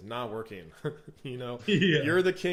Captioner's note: laughs